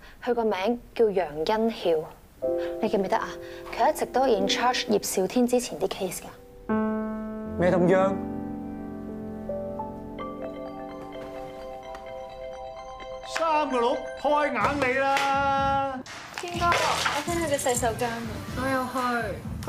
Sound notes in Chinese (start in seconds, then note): 10.4 電話鈴聲